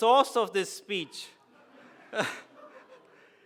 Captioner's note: laughs